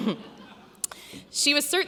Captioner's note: laughs